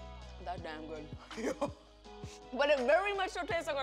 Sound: laughs

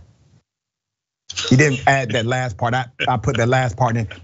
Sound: laugh

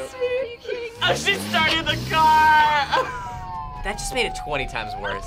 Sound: laughs

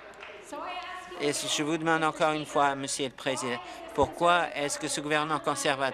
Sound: applause

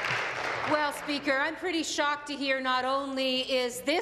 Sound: applause

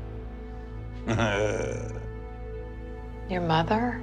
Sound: sarcastic laugh

